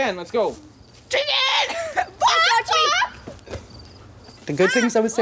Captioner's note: clucking sounds